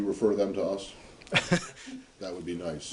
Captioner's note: laughter